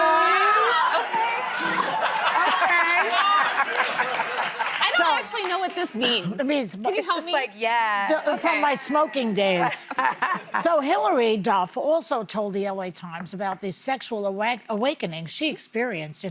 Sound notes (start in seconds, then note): 4.1 audience laughing